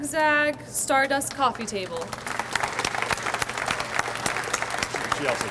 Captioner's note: audience applauds